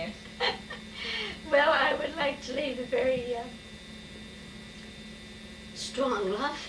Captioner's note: chuckles